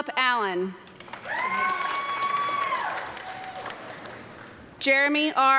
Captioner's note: audience clapping and cheering